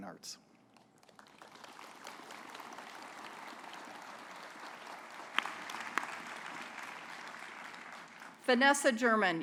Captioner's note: applause